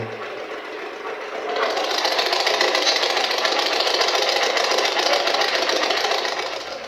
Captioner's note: white Noise